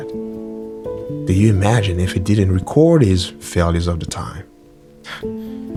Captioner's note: sigh